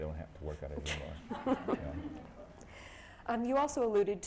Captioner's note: laughter